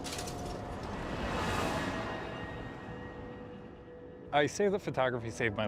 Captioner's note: cars whirring